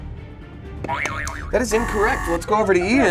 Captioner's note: buzzer buzzes